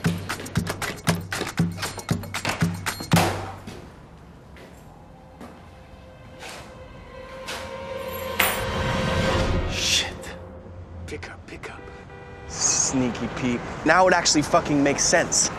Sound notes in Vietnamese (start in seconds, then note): 3.1 cửa đóng sầm lại; 12.3 còi xe